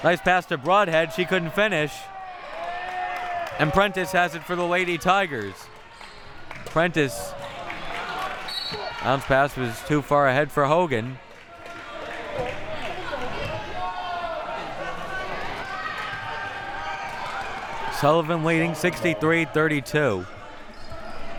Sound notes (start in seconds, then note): 8.4 whistle blowing; 11.3 audience chattering and yelling